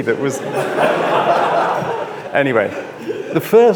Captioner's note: audience laughs